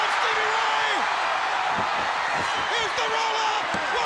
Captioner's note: crowd cheering